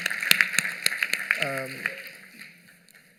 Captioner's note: applause